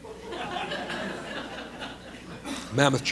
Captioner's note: laughter